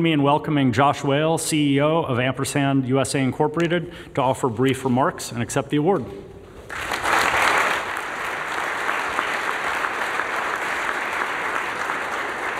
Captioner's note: applause